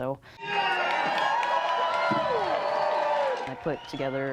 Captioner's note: crowd cheering